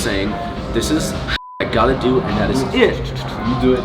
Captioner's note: beep